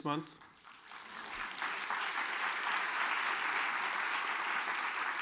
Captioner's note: audience applauds